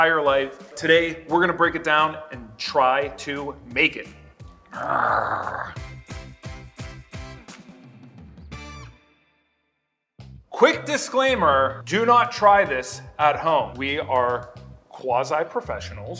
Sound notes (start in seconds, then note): 4.7 growling; 5.7 upbeat music